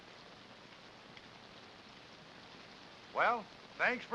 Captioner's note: rain patters